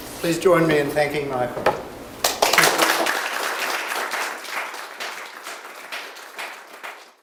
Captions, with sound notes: Please join me in thanking Michael. (audience applauding)